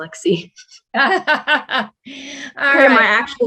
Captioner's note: laughing